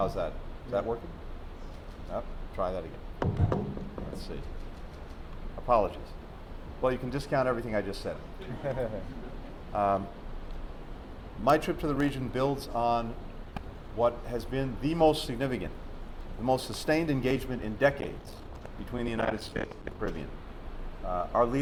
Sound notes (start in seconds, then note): 9.9 laughter